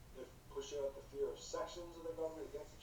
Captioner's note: none